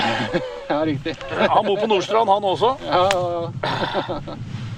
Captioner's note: laughs